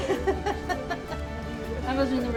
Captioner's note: laughs